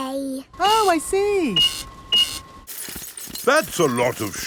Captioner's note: cash register beeping